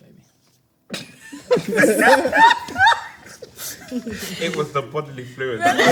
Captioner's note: everyone laughs